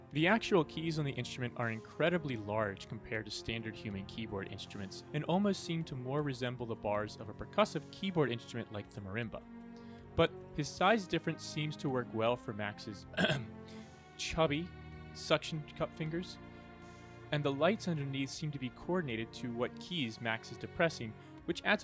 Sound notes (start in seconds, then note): 13.1 ahem